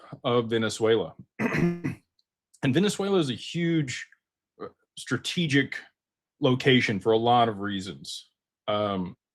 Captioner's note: clears throat